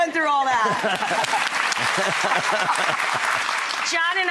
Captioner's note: laughing